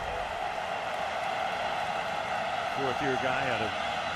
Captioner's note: cheering